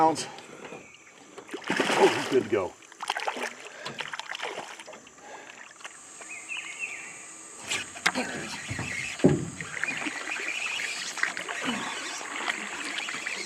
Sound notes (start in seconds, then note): 1.4 fish splashing; 4.6 rod whipping; 7.7 reel cranking; 13.2 fish splashing